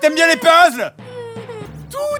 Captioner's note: child sobbing